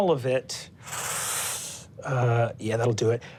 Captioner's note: whooshing